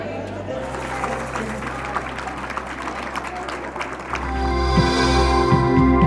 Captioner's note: soft music; people clapping; dramatic logo music